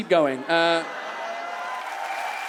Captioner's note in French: le public s'exclame et applaudit